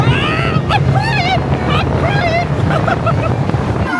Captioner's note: screaming